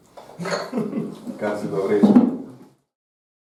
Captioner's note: in Slovene